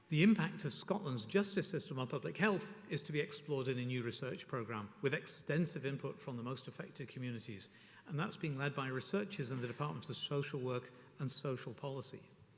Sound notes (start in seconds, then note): none